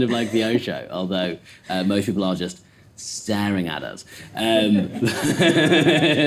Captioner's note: laughs